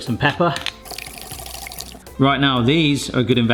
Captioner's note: yolk squelching